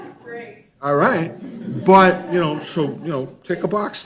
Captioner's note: laughs